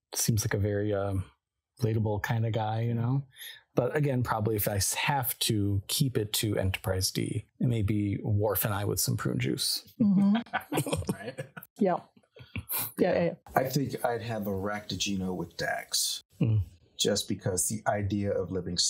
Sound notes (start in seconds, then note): 10.2 laughing